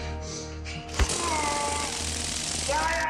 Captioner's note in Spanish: Sonido de descarga eléctrica